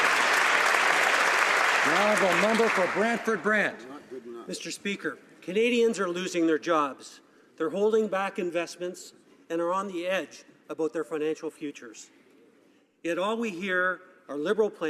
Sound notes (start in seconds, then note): 3.2 some Applause